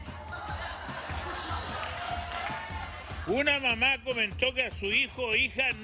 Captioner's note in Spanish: risas